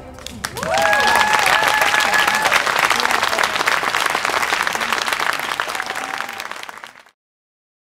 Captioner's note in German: Klatschen